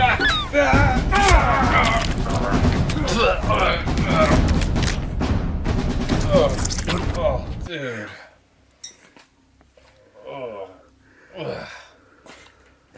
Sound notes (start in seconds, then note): 1.1 blood splattering; 1.1 shovel thumping